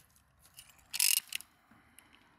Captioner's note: turning noise